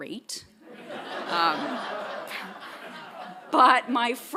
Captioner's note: audience laughing